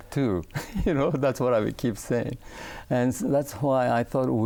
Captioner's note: laughing